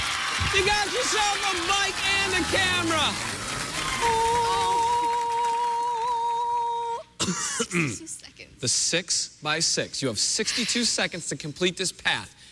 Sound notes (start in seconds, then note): 3.6 falsetto; 7.0 coughs